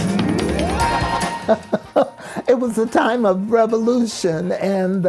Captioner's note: laughs